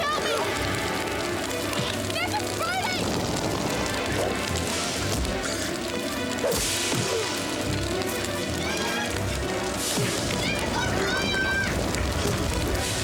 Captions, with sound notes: Nick, help me. (fire blazing) Nick, it's burning! (suspenseful music) (smacking and thudding) Nick! Nick, it's on fire!